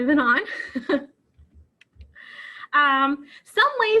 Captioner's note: chuckles